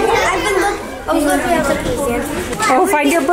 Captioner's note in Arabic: أطفال متحمسون يثرثرون